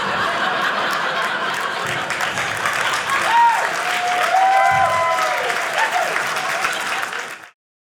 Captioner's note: audience laughing; audience applauding